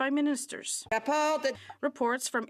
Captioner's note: speaking French